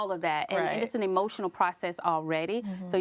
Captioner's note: laughing